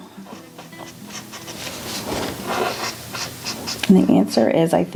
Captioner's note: marker scratching